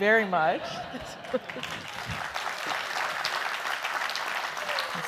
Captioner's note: clapping